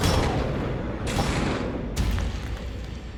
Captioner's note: loud explosion